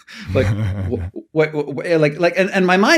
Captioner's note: chuckling